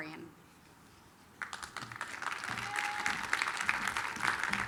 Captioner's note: applause